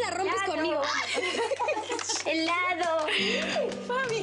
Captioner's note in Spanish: Risas